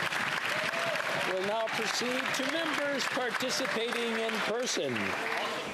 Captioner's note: cheering and Applause